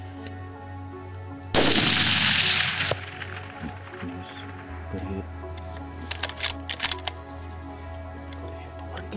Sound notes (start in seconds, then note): 1.5 gun fires